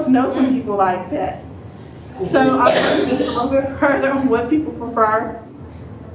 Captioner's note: cough